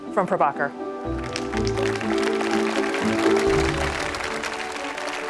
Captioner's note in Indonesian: Tepuk tangan